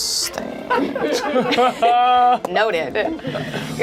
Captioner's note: laughs